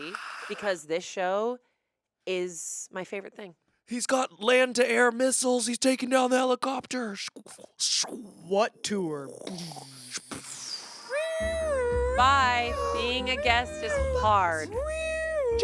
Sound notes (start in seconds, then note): 9.4 imitate explosion; 11.2 imitates siren